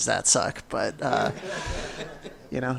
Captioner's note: audience laughing